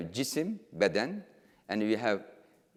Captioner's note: speaking in foreign language